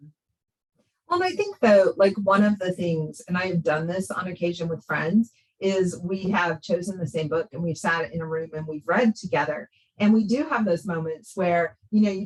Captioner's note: gasp